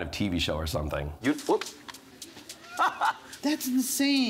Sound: laughs

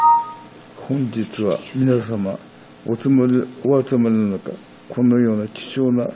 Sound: speaking in foreign language

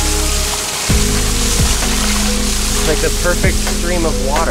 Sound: water rushing

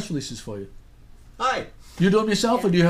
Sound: voiceover

